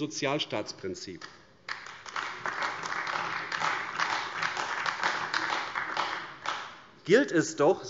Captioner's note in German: Beifall AfD